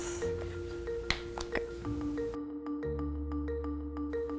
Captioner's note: pops; upbeat music